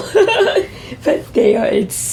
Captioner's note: laughs